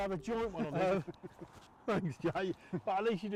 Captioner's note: laughing